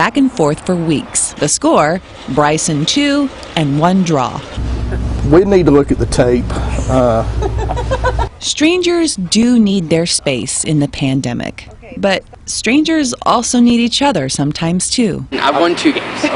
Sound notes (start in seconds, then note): 6.4 laughin